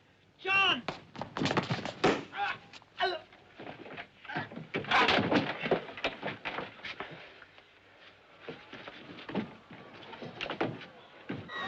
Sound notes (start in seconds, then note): 1.9 groaning